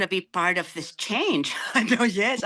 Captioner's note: laughing